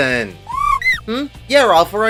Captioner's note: kweh?